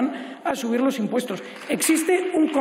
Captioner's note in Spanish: Aplausos